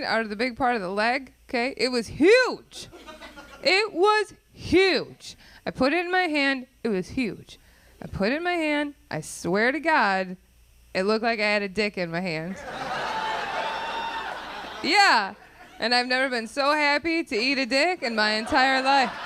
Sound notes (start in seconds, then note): 12.5 audience laughing